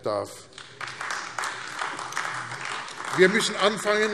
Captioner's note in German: Beifall AfD